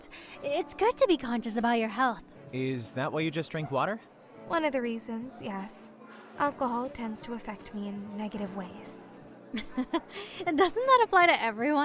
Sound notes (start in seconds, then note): 9.6 laughs